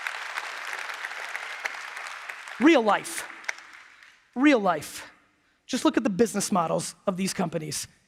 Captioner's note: applause